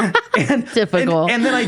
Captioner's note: laughing